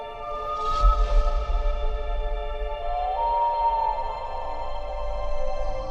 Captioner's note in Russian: звуки ночного леса